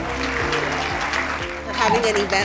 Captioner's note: crowd applause